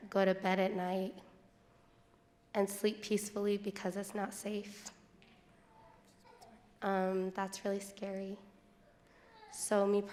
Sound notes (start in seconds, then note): none